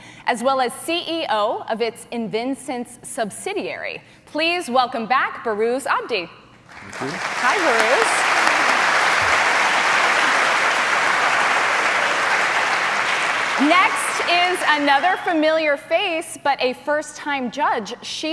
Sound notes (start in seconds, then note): 8.4 applause